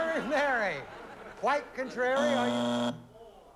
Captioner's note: buzzer